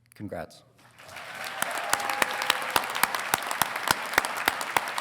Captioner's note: congregation applauding